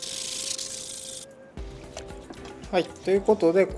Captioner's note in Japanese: 刃先を研ぐ音